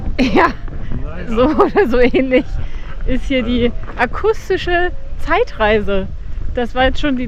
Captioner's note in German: gelächter